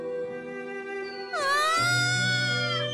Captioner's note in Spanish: grito